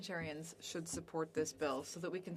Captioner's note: speaking French